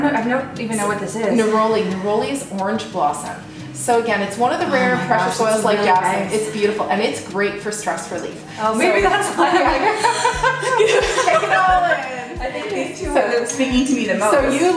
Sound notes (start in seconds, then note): 9.1 laughter; 10.0 inhaling